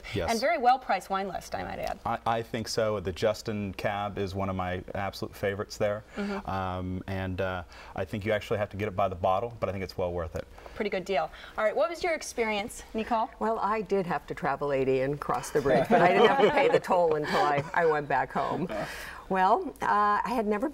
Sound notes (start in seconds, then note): 17.3 laughter